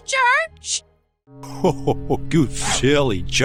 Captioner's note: cackling